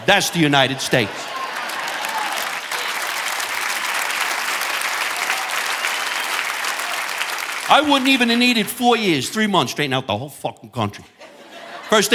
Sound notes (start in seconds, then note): 2.5 audience applauding